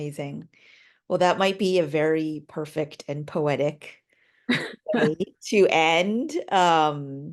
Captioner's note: chuckling